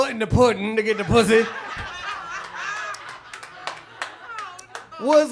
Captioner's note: audience laughs